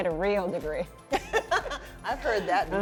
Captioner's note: both laughing